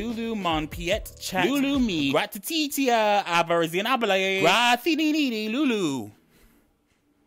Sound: man speaking gibberish

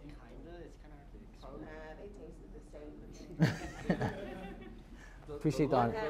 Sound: audience murmuring

